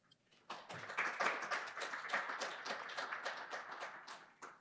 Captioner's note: audience claps